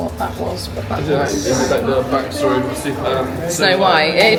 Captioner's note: stammering